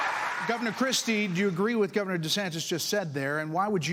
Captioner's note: cheers and applause